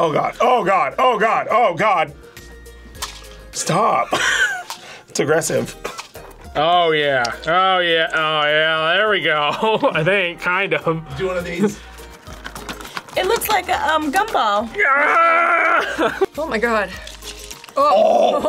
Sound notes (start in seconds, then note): 4.1 laughs; 9.4 laughs; 14.6 yells